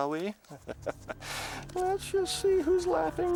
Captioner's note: chuckles